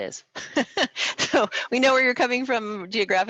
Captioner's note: laughs